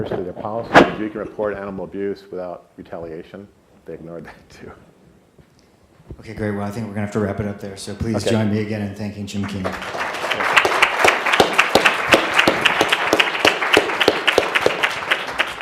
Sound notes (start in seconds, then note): 9.3 audience clapping